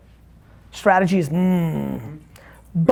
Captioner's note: groans